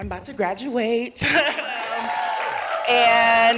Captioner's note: cheers and applause